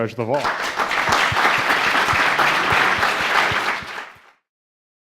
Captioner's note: audience clapping